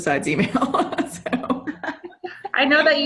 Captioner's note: chuckling